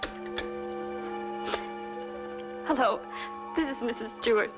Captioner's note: sniffles